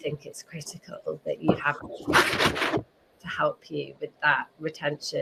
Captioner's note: voice muffling